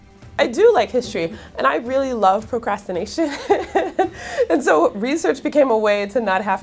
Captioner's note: laughs